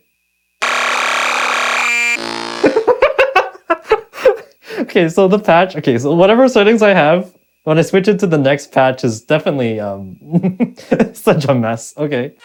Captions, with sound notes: (loud crackling) (laughing) Okay, so the patch, okay, so whatever settings I have, when I switch it to the next patch is definitely such a mess, okay.